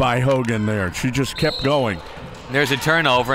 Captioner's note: referee blows whistle